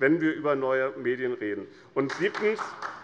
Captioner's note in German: Beifall